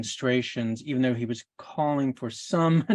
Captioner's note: chuckles